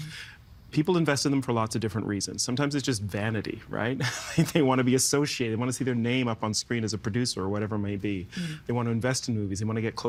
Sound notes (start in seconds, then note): 4.0 chuckling